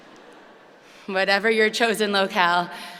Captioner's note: audience laughing